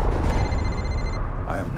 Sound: phone rings

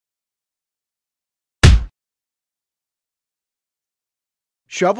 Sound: punch sound

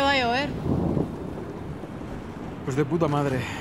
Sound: thunder

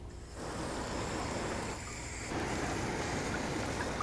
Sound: water spraying

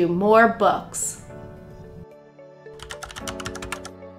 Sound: typing Sound

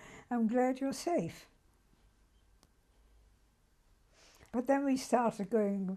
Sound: pauses for 3 seconds

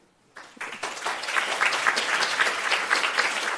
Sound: applause

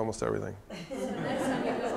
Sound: chuckling

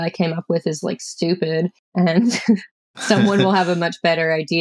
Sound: laughter

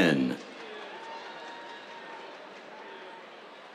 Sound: cheers, applause

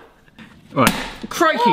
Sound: hammer bangs

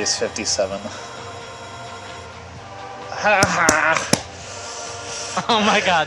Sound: cheering

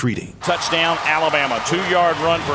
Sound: voiceover

